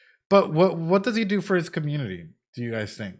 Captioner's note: none